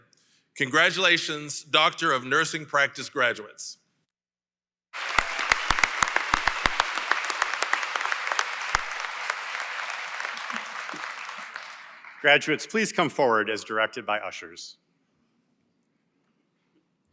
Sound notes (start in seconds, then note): 4.9 applause